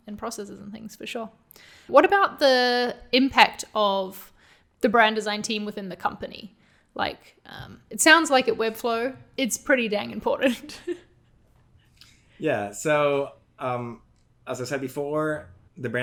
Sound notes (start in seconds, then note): 10.5 laughs